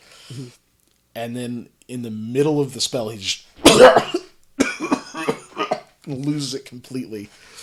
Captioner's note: coughs, rather roughly